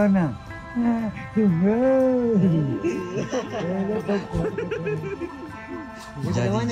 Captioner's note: speaking Kelantanese dialect; laugh; speaking Kelantanese dialect